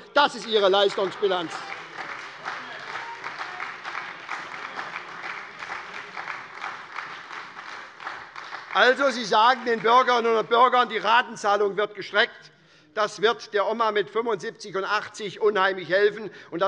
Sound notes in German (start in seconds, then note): 0.0 Beifall bei der SPD